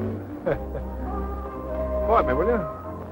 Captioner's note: chuckling